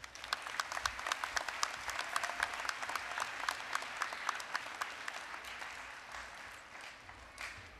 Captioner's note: applause